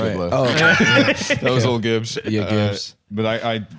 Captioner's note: laughing